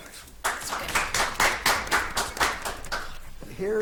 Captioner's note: audience applauding